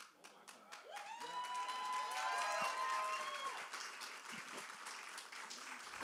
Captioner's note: cheers and applause